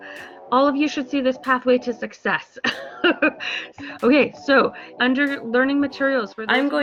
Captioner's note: laughs